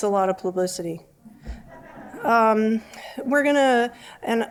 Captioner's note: laughter